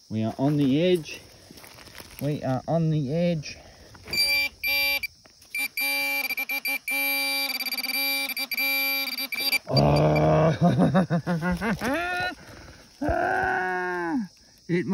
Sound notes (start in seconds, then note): 3.3 beep beep